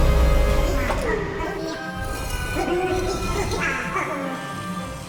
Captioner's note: chattering excitedly